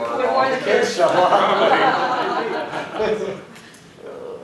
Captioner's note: laughter